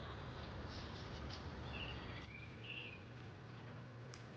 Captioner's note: birds